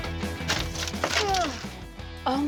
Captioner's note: grunts